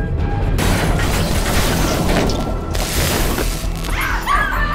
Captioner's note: suspenseful music continues; submersible rumbling; sparks crackling